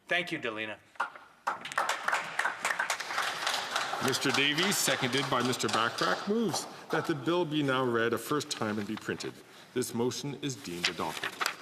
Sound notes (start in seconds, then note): 6.5 applause